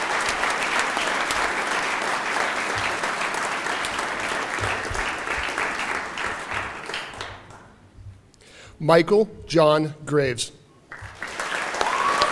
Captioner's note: applause; cheering